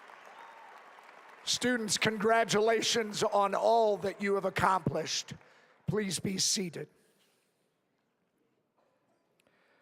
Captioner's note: applause